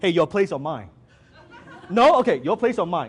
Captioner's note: audience laughs